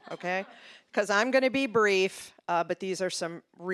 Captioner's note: audience laughing